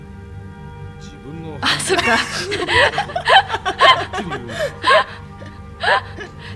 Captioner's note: laugh